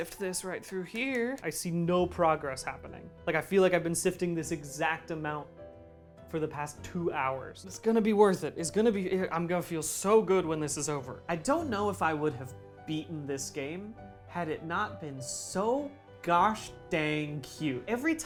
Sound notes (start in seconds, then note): none